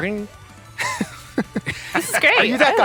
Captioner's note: laughter